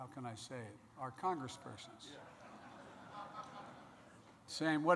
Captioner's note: laughter